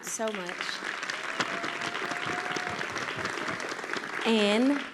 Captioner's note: audience applauding